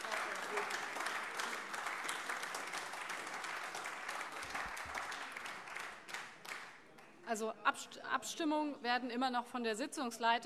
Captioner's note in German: Beifall AfD - Zurufe